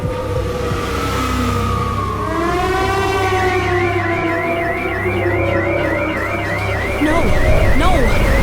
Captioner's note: emergency siren wailing